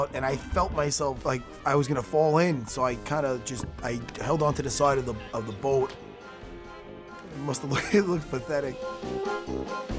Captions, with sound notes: and I felt myself, like, I was gonna fall in, and so I kinda just held on to the side of the boat. It must've look-- [chuckles] It looked pathetic.